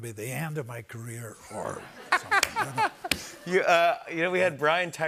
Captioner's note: laughter